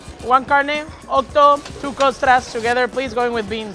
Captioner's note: speaks Spanish